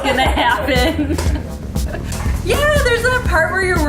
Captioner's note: laughing